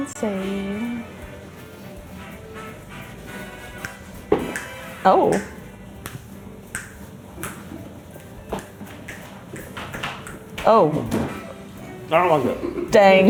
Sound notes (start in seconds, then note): 2.3 lively jazz music; 4.3 snapping; 6.7 snapping